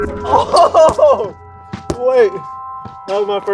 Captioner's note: laughing